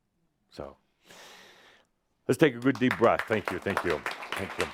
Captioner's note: some applause